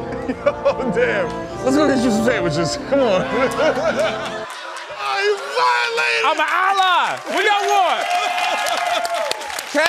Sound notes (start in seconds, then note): 0.0 laughs; 3.0 laughter; 8.5 applause